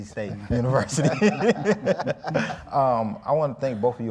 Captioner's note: all laughing